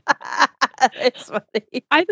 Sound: laughs

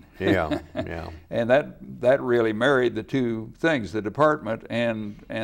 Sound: laughs

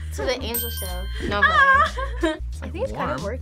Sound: laughs

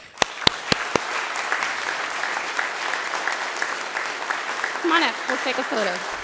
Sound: audience and Board Member applause

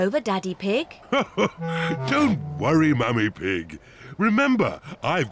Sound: laughs

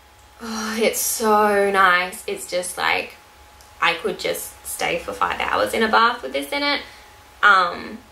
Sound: sighs

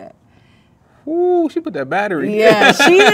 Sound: laughs

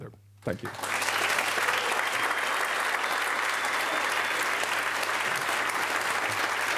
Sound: applause

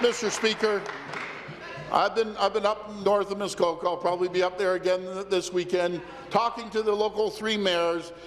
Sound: applause

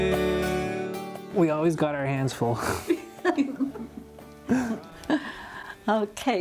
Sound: giggles

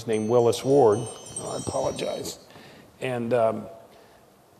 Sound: phone ringing

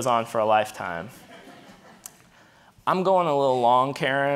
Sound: audience laughing

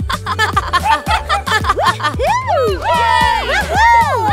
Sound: all laugh; all cheer

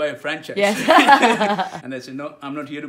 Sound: laughing

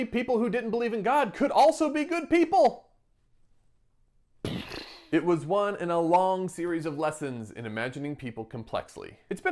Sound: mindblown noise

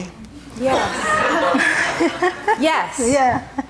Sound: laughing

